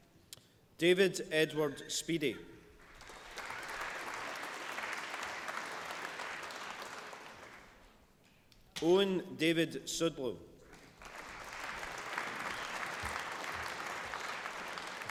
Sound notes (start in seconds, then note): 2.8 applause; 10.6 applause